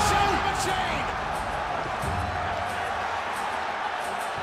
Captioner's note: crowd cheering